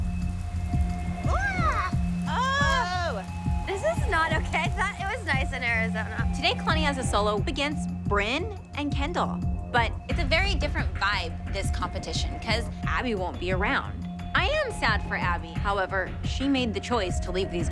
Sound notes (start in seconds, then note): 1.2 shouting